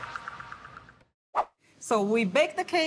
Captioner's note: electronic music; swoosh